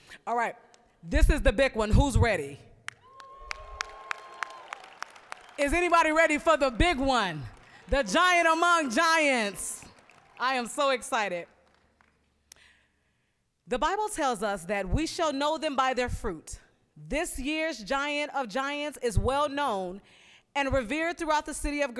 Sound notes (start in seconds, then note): 3.4 applause, cheering; 9.6 applause